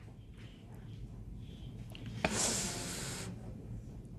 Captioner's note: sniffles